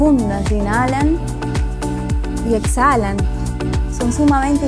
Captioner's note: inhaling and exhaling